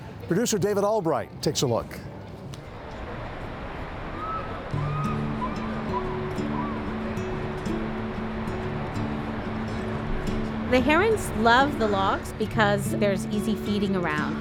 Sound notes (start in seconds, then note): 3.7 bird calls